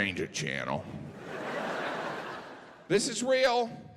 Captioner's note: audience laughing